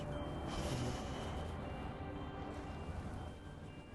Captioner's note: deep sigh